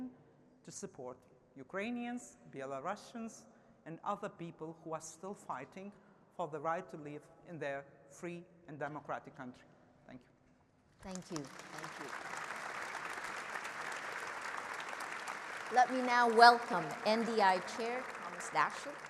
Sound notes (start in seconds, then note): 11.1 audience clapping